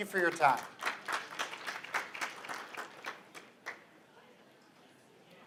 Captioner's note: applause